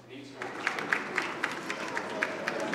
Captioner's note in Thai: เสียงปรบมือ